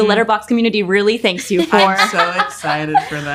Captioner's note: Tessa laughs